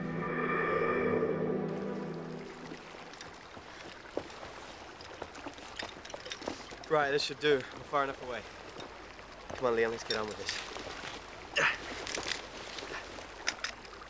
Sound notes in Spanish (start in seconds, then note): 0.0 viento silbando; 2.6 gorgoteo de agua